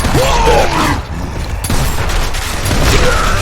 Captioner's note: guns booming; avatar grunting